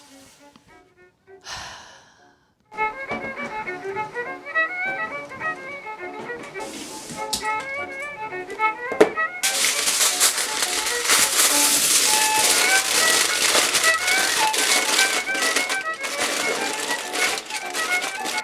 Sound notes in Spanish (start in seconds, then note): 1.4 suspira profundamente